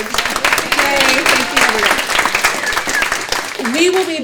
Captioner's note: audience clapping